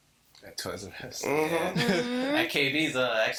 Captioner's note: voice muffled